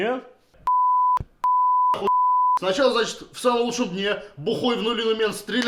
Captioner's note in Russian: ц, ох